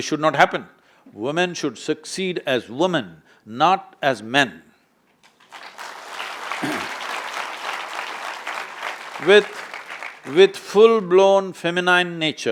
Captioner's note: applause